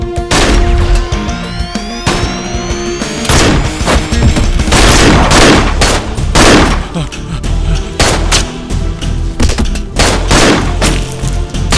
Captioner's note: gunshot